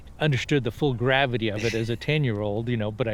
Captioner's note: laughs